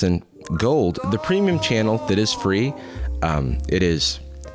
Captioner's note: disembodied voice